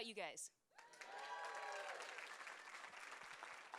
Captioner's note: applause and cheers